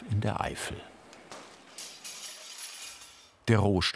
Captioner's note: metallic clatter